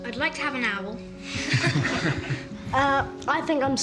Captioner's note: all laugh